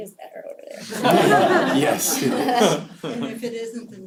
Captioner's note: laugh